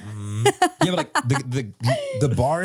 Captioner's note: laughs